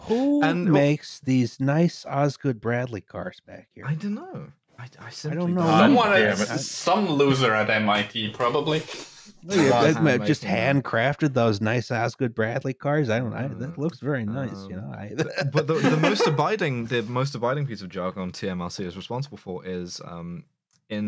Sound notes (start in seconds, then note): 5.0 overlapping chatter; 15.1 laughter